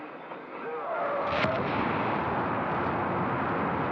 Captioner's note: rocket firing